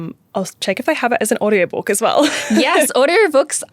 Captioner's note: chuckles